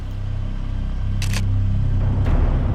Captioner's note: camera clicks